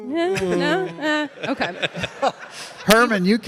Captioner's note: all laughing